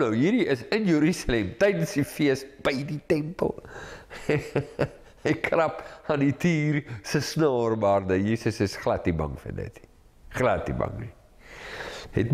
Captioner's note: laugh